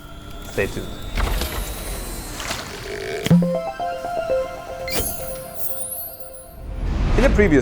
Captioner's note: playful chime